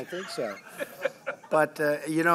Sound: laughter

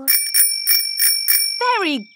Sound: rings bell

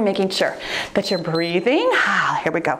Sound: timer beeps

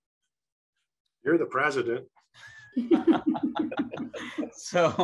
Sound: laughs

